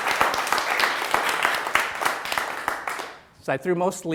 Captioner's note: applause